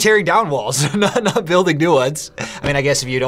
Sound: laughs

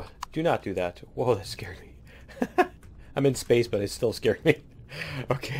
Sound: laughs

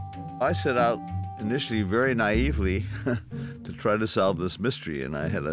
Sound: laugh

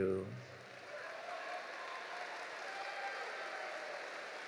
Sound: audience applauding

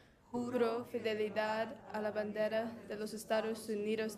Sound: foreign language

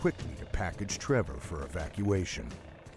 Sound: voiceover

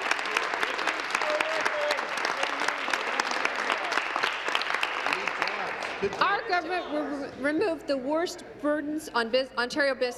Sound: applause

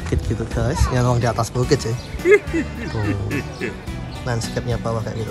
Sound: chuckle

